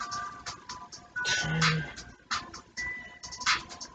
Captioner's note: sighs